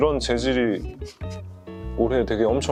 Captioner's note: rub rub